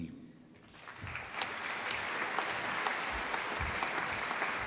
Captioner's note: applause